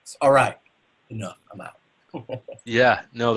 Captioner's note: laughs